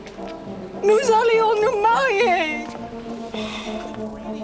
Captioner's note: Jilly speaks French